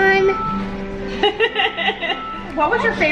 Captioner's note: laughs